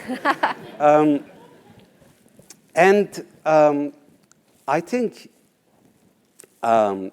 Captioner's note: laugh